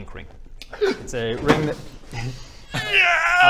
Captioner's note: excited Baradun noises